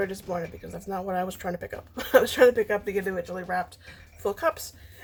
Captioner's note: laughs